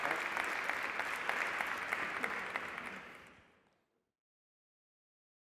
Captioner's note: applause